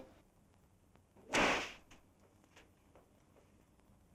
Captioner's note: whip cracks